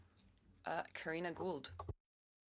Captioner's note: speaking French